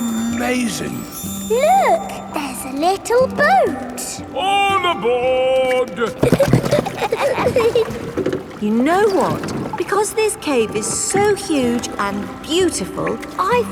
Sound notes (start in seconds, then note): 5.8 giggling